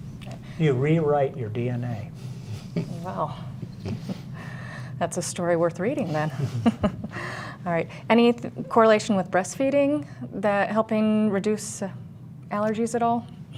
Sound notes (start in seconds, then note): 6.3 laughter